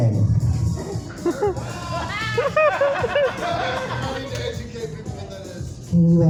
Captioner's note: scattered laughter